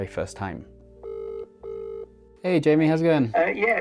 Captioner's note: phone ringing